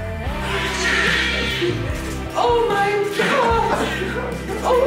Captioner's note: baby cries